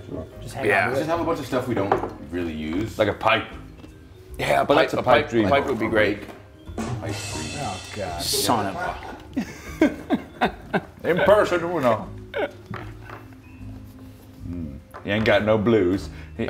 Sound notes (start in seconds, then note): 8.4 laugh